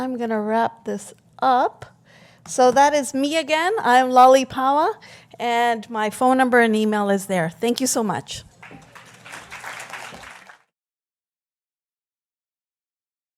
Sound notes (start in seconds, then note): 11.9 applause